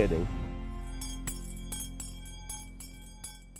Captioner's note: bell ringing